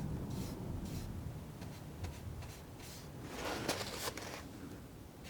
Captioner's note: scratching